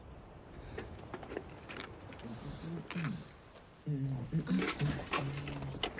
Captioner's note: clattering; man humming